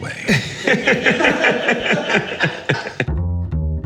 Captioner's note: laughing